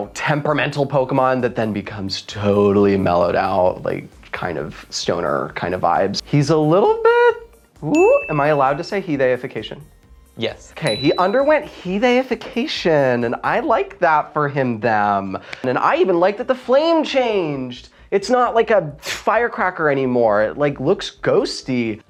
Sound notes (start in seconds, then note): 7.9 ding sound